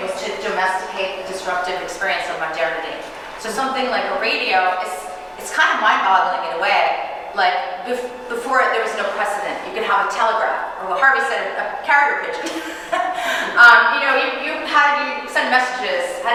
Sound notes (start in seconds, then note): 12.4 chuckling